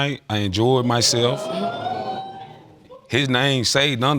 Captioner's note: audience exclaiming